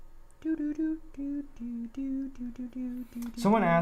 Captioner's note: humming